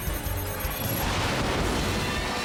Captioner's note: beeping